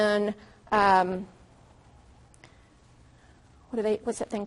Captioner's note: long pause